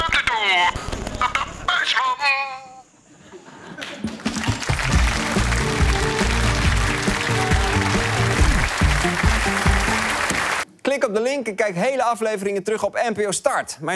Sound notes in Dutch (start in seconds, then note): 2.5 applaus